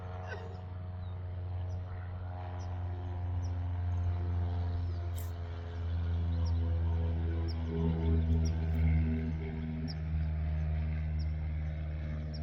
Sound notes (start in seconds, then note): 0.0 plane whirring; 0.2 laughs